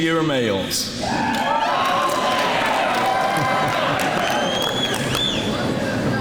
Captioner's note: men cheer and laugh